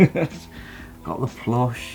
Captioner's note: laughs